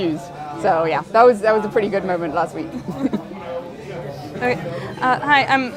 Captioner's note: laughing